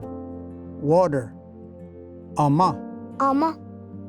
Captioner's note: repeats in Cherokee